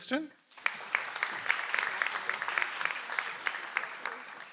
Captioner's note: audience applauds